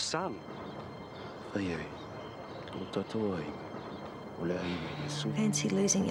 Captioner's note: father speaking in Samoan